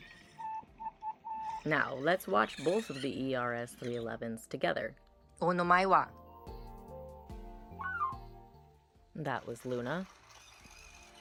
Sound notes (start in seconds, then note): 7.0 Luna beeps once; 7.0 Says Luna in garbled robot voice